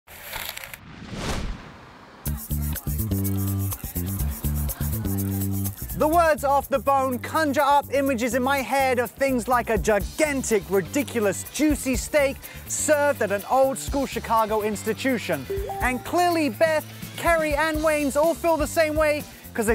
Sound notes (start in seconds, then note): 0.1 rustling; 2.6 upbeat music